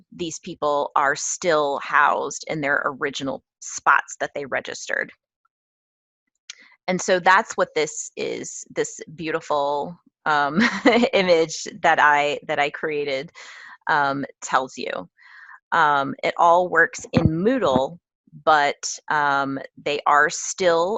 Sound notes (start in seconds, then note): 11.7 laugh